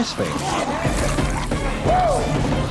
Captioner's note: zombies snarling; man woops